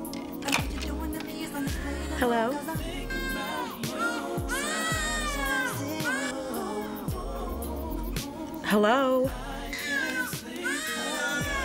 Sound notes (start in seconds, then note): 4.4 baby crying dramatically; 9.7 baby crying dramatically